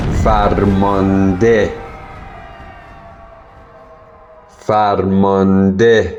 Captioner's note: cheers